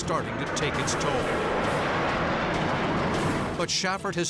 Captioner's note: jet engine noises